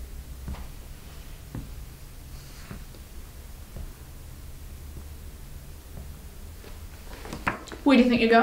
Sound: footsteps; tapping

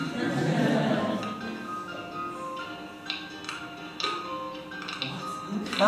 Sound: students laugh

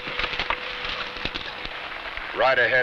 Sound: none

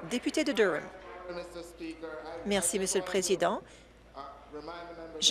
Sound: applause

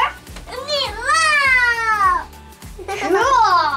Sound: babbling

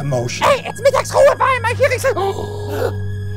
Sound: gasp

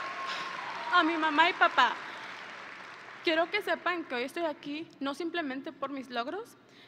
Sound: audience and graduates cheering; speaking in foreign language

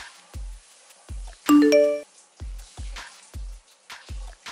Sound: message dings

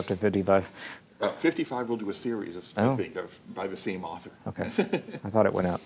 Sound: chuckles

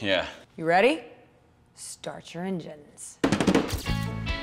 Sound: taps the table

